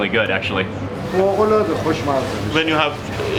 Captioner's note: man speaking in foreign language